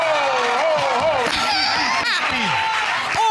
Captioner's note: audience laughing, cheering